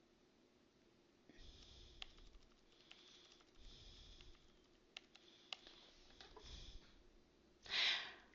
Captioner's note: typing